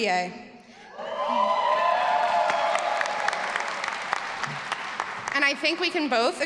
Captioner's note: all applauding and cheering